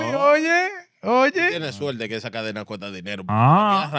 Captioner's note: speaking In Foreign Language